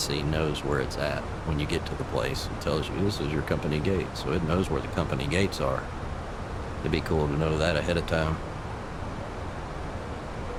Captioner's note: radio chatter